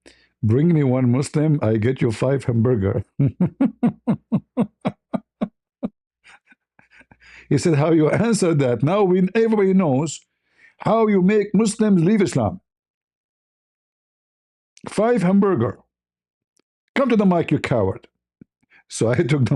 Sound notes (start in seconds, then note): 3.0 ketawa